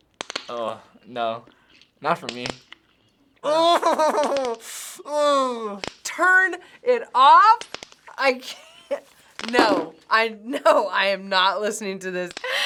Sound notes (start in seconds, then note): 3.2 groans